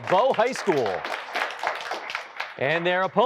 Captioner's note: applause